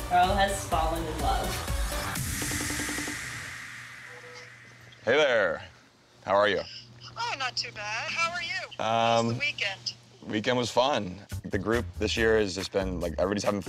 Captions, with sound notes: [phone ringing] - Hey, there. How are you? - Oh, I'm not too bad. How are you? - Um, weekend was fun. The group this year has just been, like, everybody's having fun.